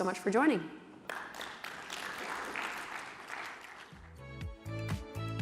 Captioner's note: applause